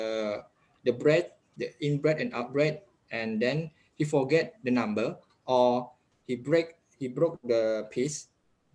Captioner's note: the in-breath and out-breath